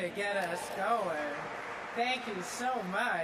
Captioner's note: audience claps